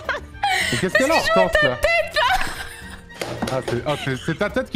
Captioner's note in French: les deux rient